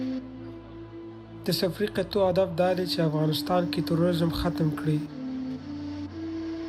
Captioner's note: speaking foreign language